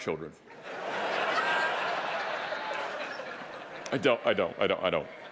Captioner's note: audience laughing